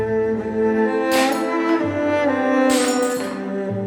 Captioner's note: plate crashes to the floor